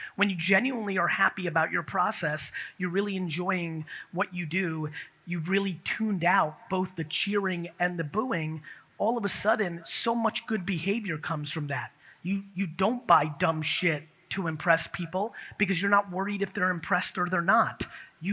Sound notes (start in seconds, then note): none